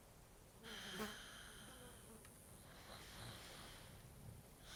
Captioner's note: fly buzzing